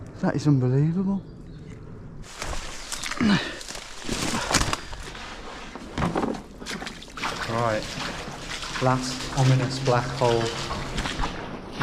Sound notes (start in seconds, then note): 3.2 groaning; 6.0 feet stomping